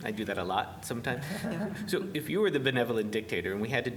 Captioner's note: laughter